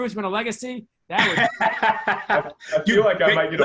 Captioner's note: laughs